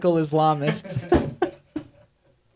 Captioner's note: laughter